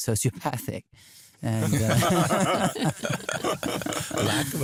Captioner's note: laughter